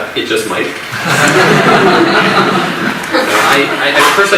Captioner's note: audience laughs